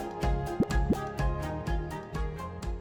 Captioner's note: graphic pops